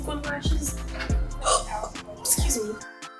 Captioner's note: hiccup